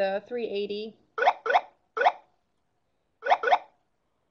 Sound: beeping

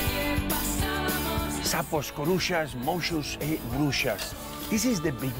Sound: spanish

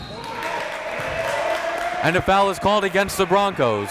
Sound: whistle blows; applauding and cheering

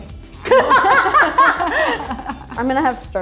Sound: both laugh

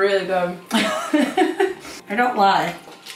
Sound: laughs

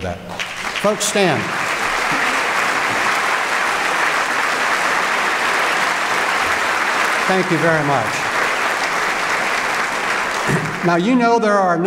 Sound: applause

